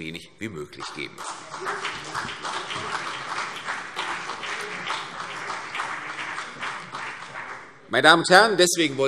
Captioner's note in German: Beifall CDU und BÜNDNIS 90/DIE GRÜNEN